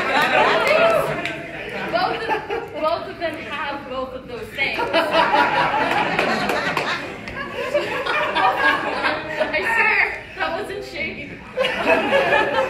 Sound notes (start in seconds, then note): 4.7 laughter; 9.2 clapping